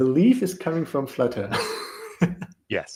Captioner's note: laughter